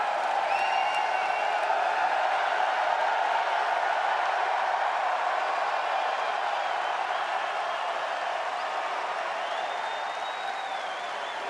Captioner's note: cheers and applause